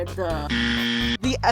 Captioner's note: wrong buzzer